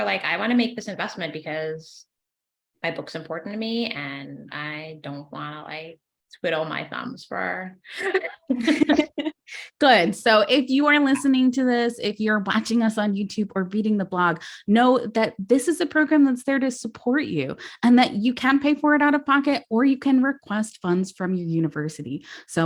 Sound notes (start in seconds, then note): 7.9 laughs